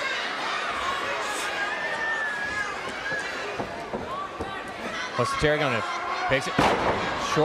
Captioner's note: crowd chatter